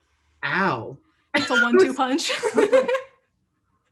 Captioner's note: both laugh